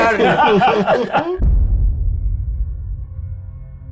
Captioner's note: players laughing